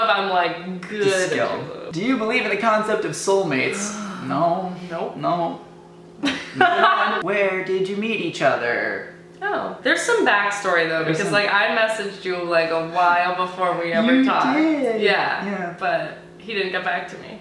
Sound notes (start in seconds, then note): 3.6 groan; 3.7 sigh